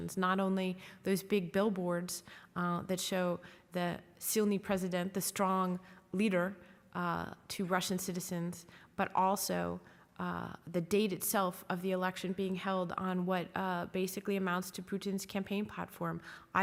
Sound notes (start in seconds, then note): 3.8 speaking Russian